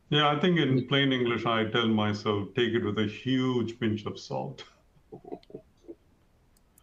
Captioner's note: laughs